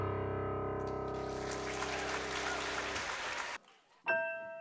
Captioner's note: audience applauding; light music